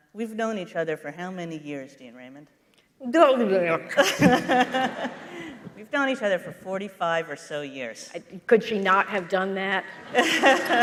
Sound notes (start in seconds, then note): 3.8 making mumbling sounds and laughing